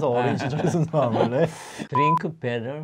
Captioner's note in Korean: 웃음